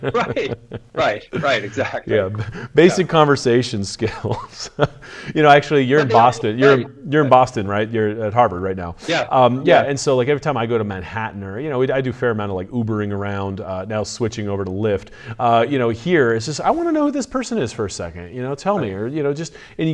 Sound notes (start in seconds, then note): 0.0 chuckles; 0.0 laughs